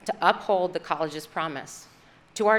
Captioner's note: none